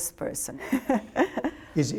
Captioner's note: laughter